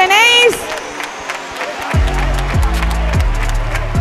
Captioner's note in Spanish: Aplausos